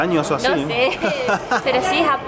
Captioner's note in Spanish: risas